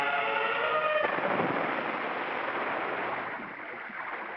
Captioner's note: big splash